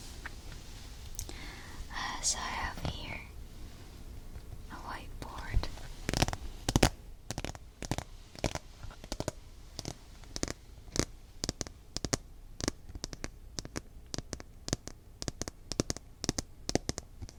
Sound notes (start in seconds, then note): 12.0 tapping